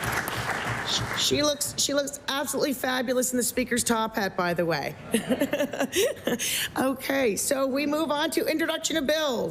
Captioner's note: applause